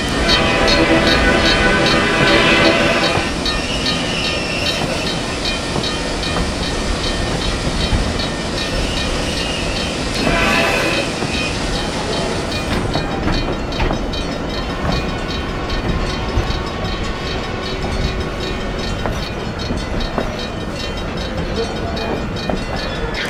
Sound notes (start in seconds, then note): 0.3 H-24-66 Trainmaster horn; 5.6 train brakes squealing